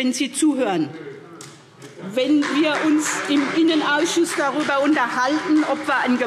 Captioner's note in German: Beifall : Nö!